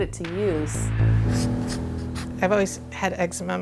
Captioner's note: sound of pencil drawing